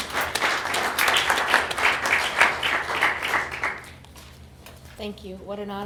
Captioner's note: applause